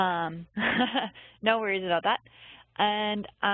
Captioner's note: laughing